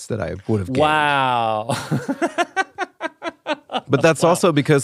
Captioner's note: laughs